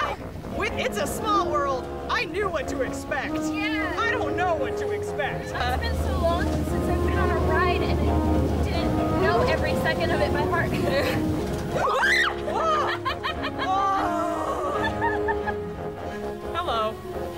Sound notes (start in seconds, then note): 11.7 shriek; 13.3 laughter and Embarrassment